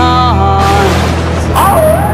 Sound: thunder sounds; coyote howling

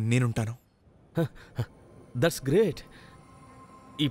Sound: chuckles

